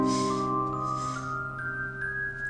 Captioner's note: transition sound